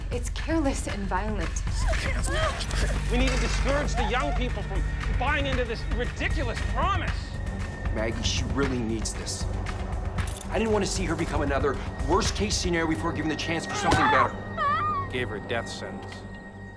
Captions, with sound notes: it's careless and violent. (all screaming) - We need to discourage the young people from buying into this ridiculous promise! - Maggie, she really needs this. I didn't want to see her become another worst case scenario before being given the chance for something better. (Maggie screaming) - You gave her a death sentence.